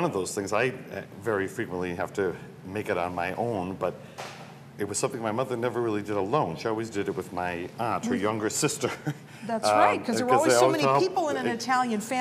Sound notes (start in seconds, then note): 8.6 laughs